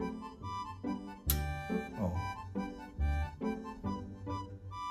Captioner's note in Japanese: リレー動作音